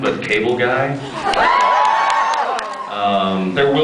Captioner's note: cheers